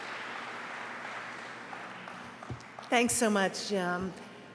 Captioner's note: applause